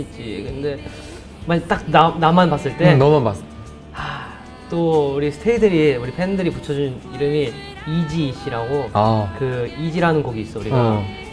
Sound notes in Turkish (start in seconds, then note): 3.5 İç Çekme